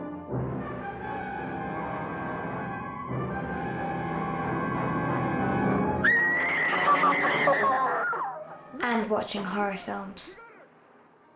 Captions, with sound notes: (Horror film playing) (Woman screams) And watching horror films.